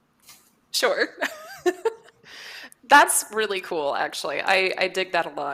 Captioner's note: laughs